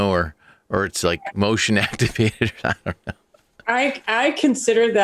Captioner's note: laughs